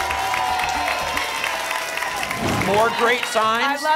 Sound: applause and cheering cont

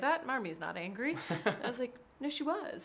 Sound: man laughing

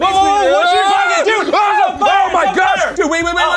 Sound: screaming

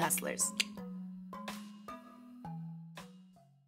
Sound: Keke clicks her tongue

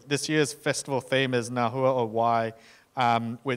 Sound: speaking in foreign language

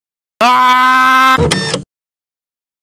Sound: more printer

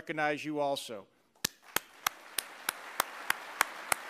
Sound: applause

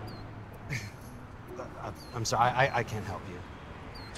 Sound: chuckles

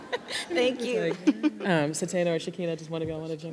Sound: audience laughing

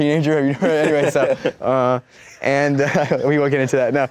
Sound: laughs

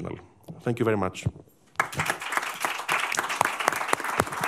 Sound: applause

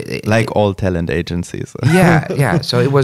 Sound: laughs

